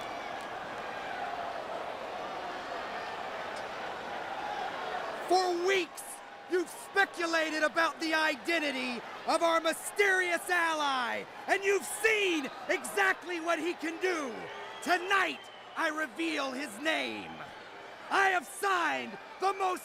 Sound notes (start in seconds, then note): 5.8 crowd chatter